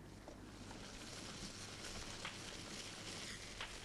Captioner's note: fire crackling